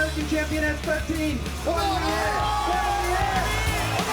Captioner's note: crowd cheering